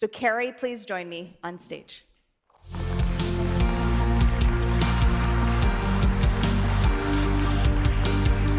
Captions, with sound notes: So Carrie, please join me onstage. (upbeat music) (audience applauding)